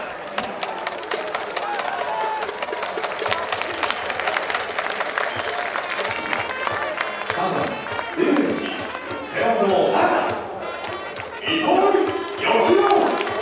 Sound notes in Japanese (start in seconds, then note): 2.8 拍手; 13.2 拍手